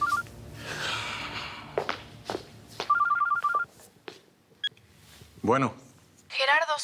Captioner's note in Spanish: suena el celular